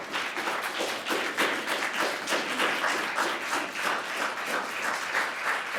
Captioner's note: audience applauding